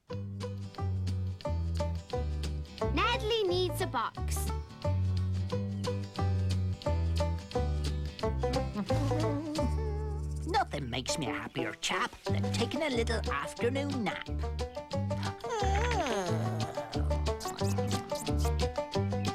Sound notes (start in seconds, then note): 8.7 humming; 15.2 yawning